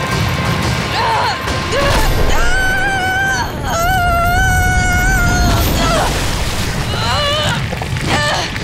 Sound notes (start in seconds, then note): 1.6 screaming; 5.5 groaning